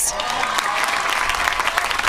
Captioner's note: applause